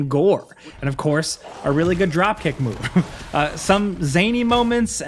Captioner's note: chuckles